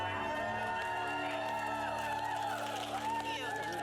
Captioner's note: cheering